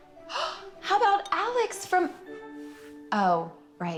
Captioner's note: gasps